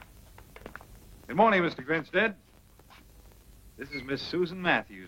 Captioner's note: none